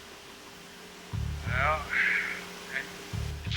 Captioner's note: sighs